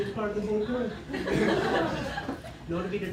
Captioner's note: laughter